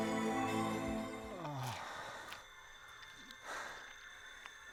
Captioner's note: moaning